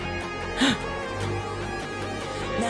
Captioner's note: gasp